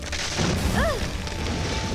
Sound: crashing sound

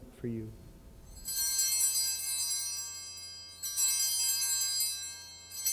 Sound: bells ringing three times

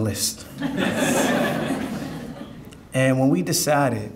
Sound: audience laughing

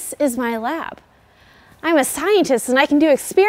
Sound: frustrated

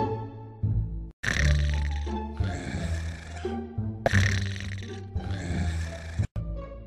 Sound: snoring

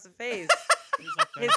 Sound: laughing

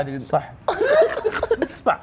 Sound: laughter

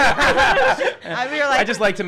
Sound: laughing

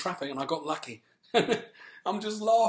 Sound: laughs

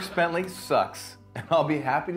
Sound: laughter

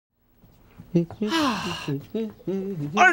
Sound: humming

